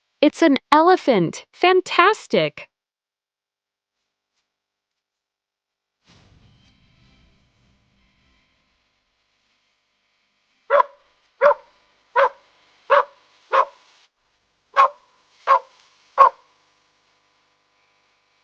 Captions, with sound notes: It's an Elephant! Fantastic! [Animal Sound]